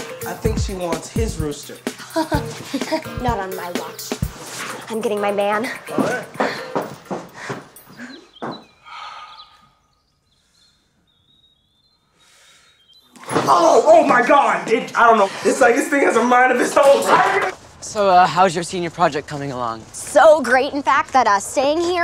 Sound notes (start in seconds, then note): 1.9 chuckles; 8.8 sighs